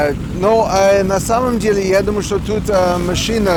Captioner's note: hemming and hawing